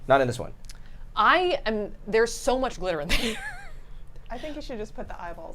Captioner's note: laughs